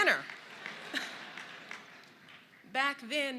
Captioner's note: laughter